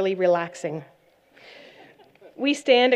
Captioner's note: laughter